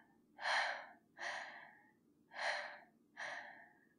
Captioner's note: breathless